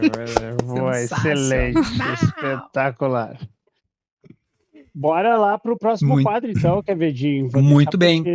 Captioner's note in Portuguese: limpando a garganta